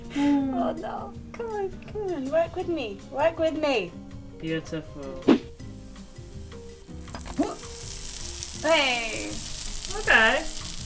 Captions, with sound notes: Oh no, c'mon work with me. Work with me! Beautiful! [pleasant music] [sizzling] Ok!